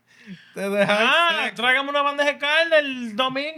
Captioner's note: speaking Spanish